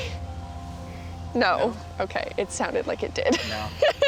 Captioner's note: chuckles; laughs